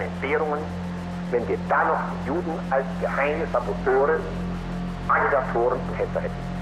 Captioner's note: Himmler continues speaking German